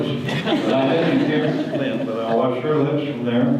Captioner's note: audience laughter